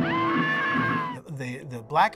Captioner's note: screaming